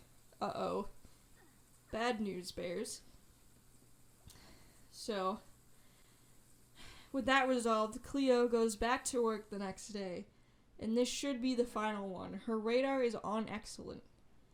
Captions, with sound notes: "Uh oh." Bad news bears. So.. [SIGHS] With that resolved, Cleo goes back to work the next day. And this should be the final one. Her radar is on excellent.